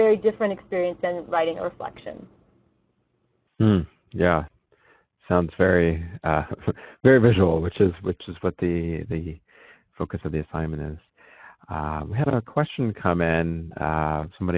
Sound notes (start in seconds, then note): 3.0 voiceover; 6.1 chuckles